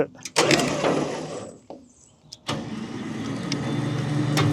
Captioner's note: machinery humming